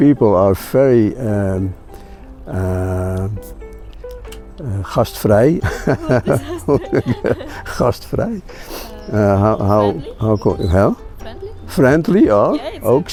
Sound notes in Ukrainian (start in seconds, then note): 2.5 щось нідерландською; 6.9 щось нідерландською